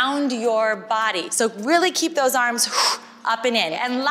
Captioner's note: loud exhale